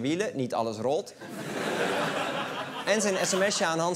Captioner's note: laughter